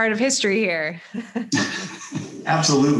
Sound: both chuckle

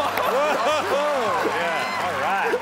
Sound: cheering

